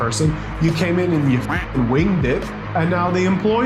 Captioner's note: duck quacking